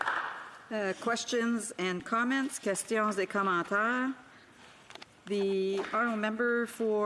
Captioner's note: applause